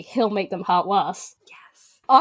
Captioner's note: whispers